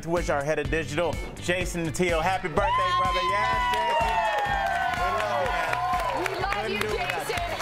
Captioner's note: cheers & applause